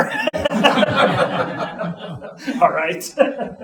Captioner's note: audience laughing